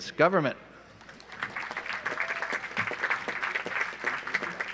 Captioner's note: audience applauds